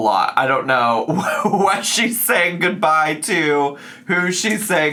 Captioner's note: laughs